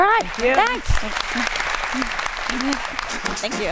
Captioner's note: applause